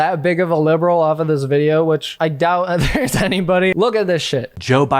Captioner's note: chuckles